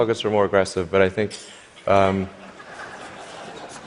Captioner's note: laughter